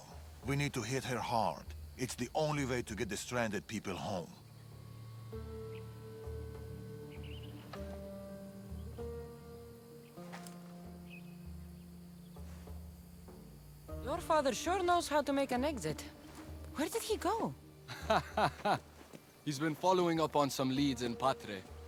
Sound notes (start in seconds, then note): 17.8 laughs